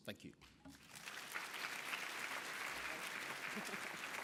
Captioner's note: applause